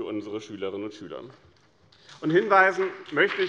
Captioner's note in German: Vereinzelter Beifall BÜNDNIS 90/DIE GRÜNEN und CDU